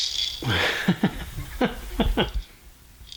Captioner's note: laughs